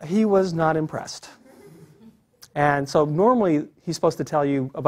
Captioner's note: laugh